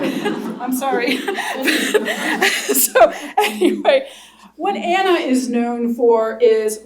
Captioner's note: laughter; laughs